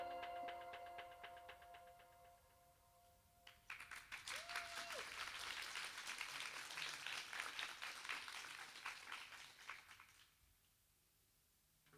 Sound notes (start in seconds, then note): 0.0 music stops; 7.2 applauds